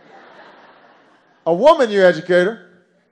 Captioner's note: laughter